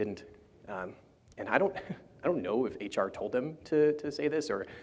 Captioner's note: chuckles